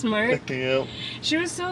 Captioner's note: laughs